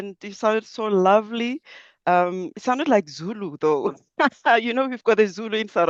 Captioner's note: laughs